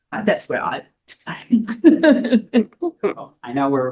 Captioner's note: laughs